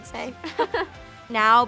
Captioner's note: laughs